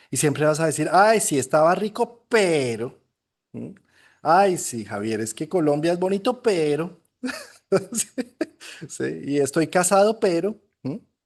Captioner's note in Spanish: risas